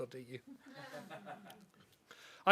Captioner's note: laughter